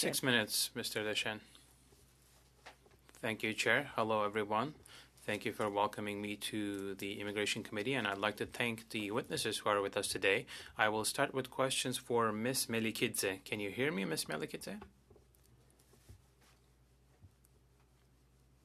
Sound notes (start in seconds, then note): 5.4 speaking French